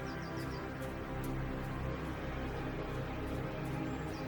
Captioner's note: birds chirping